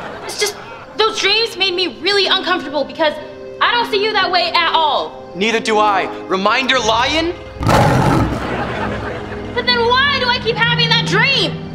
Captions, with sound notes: It's just those dreams made me really uncomfortable because I don't see you that way at all! Neither do I! Reminder, lion! [roaring] But then why do I keep having that dream?